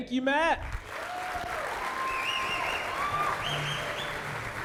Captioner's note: audience applauding